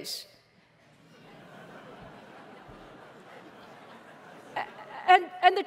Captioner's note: laughter